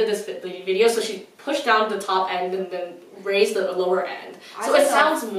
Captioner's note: quieter